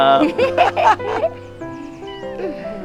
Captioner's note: both laughing